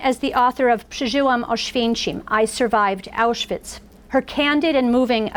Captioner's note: foreign language